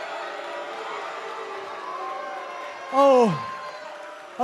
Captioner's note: cheers and boos